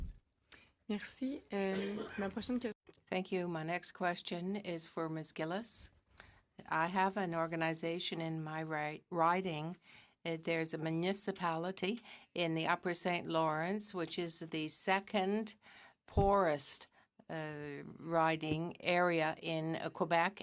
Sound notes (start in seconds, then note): 5.5 speaking in french